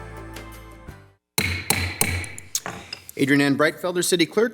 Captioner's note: gavel bangs